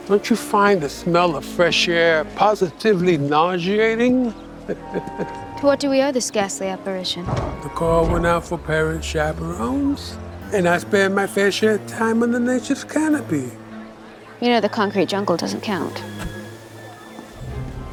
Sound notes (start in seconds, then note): 4.7 Gomez chuckles